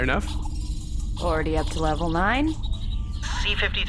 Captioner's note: cheeps and powerup sound effects